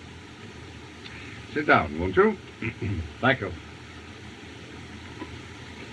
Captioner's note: clears Throat